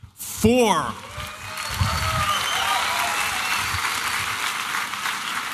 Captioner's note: applause and cheering